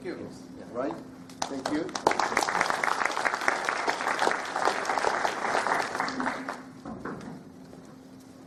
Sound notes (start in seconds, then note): 1.4 audience applauding